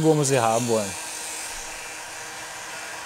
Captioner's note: föhn noises